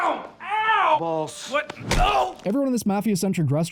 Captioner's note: pain noises